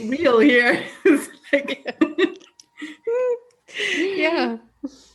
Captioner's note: laughing